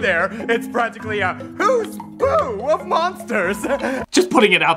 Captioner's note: chuckles